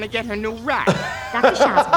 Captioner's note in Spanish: reír